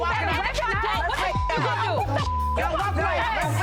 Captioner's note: people chattering; beep; people chattering